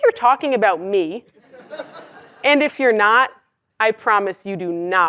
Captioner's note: laugh